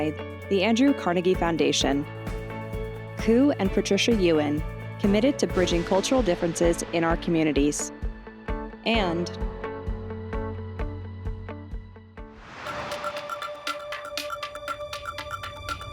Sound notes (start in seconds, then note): 12.4 air whooshes; 12.6 gentle music